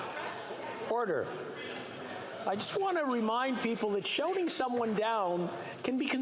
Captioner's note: chatter